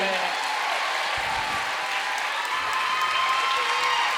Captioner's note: audience cheering and applauding